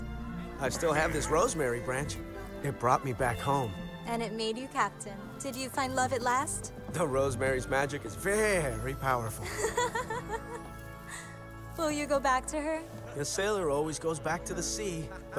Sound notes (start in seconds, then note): 9.4 ines laughs